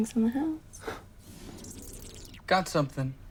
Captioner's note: squeaking